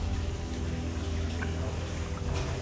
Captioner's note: water dripping